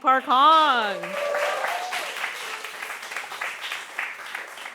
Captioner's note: audience cheering